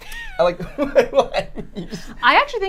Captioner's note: laughter